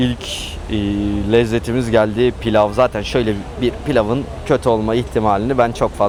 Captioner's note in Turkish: homurdanır